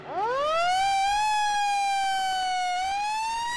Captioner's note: siren